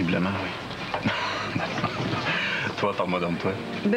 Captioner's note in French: Rire